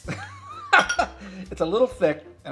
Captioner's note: laughing